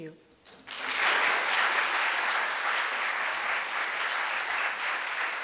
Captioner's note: audience applauds